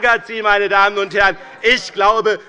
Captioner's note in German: Zurufe von Abgeordneten der SPD